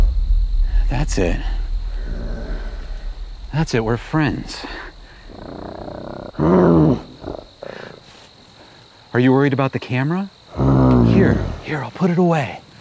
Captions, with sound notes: - That's it. That's it, we're friends. (Bigfoot growls) - Are you worried about the camera? Here, here, I'll put it away.